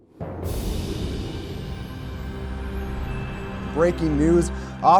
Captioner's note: soft music; wind whooshing